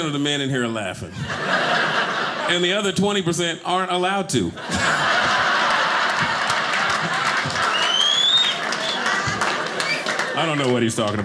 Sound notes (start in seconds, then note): 4.8 audience cheering